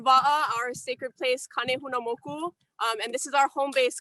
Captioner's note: speaking native language; speaking native language